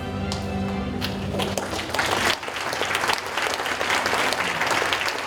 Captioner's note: audience applauding